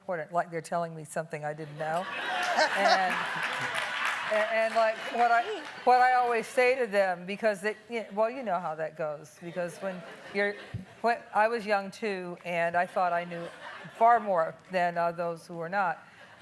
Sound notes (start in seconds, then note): 2.0 laughing